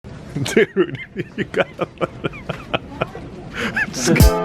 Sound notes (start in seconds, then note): 0.4 laughs